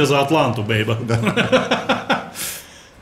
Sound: both laughing

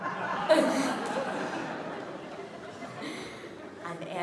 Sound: audience laughs

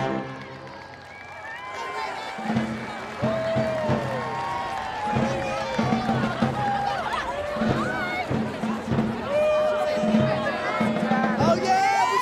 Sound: applause

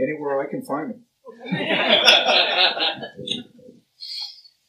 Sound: laughter

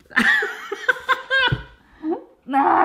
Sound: laughing

